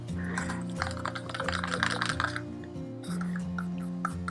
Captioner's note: stirrer scraping